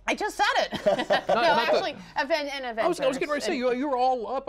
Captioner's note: laughter